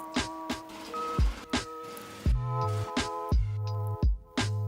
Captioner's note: pleasant music; drill whirring